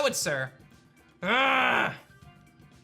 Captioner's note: grunts